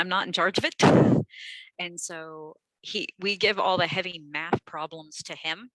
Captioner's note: laughter